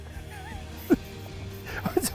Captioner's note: laughs